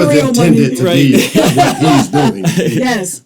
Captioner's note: participants laughing